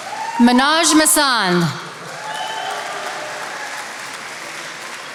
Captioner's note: attendees applauding